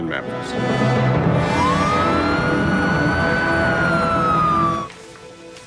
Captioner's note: sirens wail